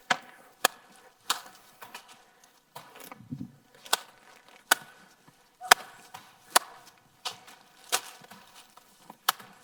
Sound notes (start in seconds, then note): 0.1 plastic popping; 4.5 plastic popping loudly